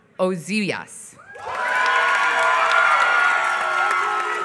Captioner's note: applause